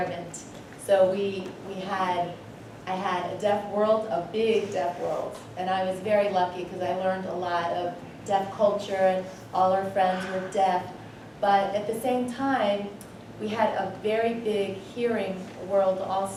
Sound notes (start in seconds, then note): none